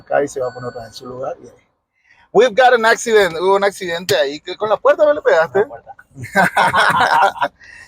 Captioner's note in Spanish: risas